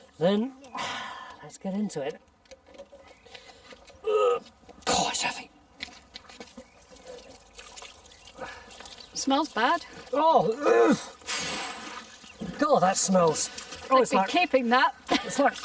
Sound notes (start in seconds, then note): 4.0 groans; 10.5 Tony groaning